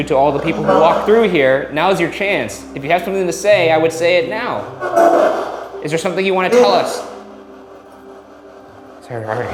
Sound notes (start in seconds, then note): 5.1 spirit box chattering